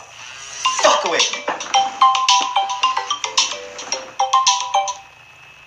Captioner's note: phone plays ringtone